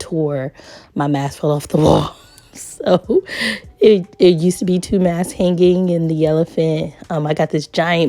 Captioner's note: laughs